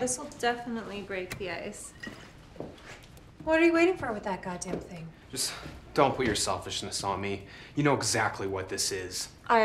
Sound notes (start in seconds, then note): 1.9 liquid sloshing